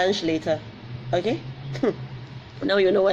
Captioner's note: laughs